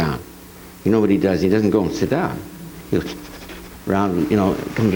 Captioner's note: nose sniffs